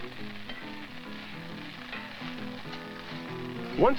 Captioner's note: sounds of cooking griddle sizzling